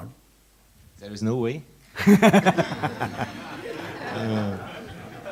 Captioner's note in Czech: smích